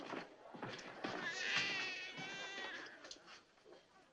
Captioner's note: baby crying